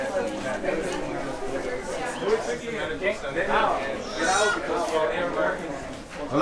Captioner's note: crowd chatting in foreign language